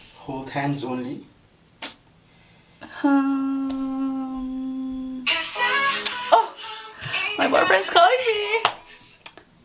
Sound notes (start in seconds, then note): 4.6 ringtone